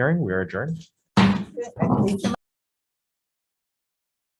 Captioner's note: gavel bangs